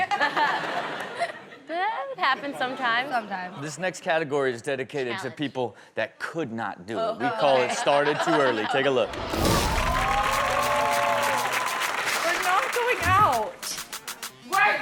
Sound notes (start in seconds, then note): 0.0 all laughing; 9.0 audience cheering and clapping